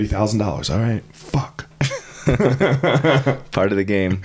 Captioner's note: both laughing